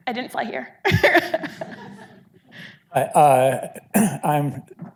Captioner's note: audience laughing